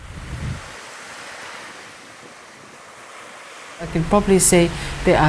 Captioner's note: water swooshing